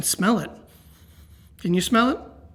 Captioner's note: sniffs